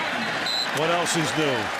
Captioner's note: whistle